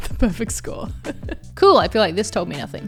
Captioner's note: laughs